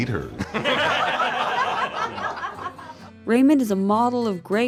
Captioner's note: laughter